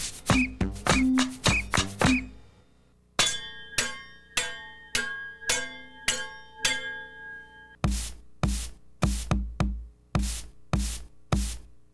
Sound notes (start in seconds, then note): 3.1 clang clang clang clang clang clang clang